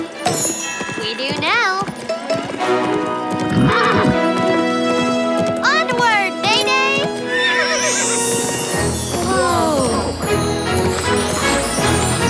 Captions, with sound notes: We do now. [neighing] Onward, Neigh-Neigh! [neighing] Whoa! [upbeat music playing]